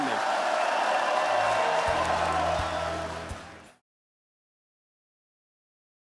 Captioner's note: applause